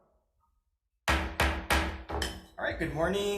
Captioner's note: gavel banging